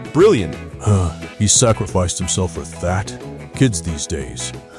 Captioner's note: sigh